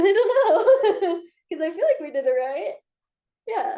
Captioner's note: chuckles